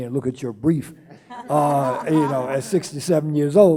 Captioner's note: laughing